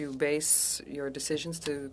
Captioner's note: speaking French